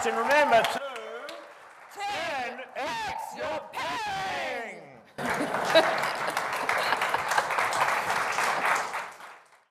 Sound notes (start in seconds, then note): 5.1 audience applauding